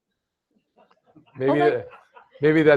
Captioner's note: laughter